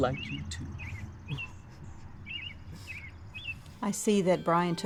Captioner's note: laughs